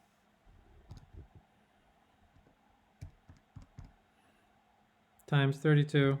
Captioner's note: calculator buttons clicking